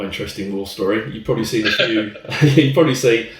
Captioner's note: laughter